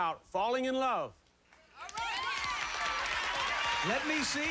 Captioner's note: cheers